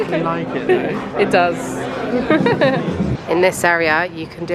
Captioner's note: laughs